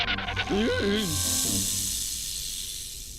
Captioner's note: skidding; rattling and hissing